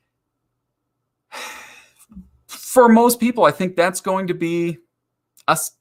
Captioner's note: sighs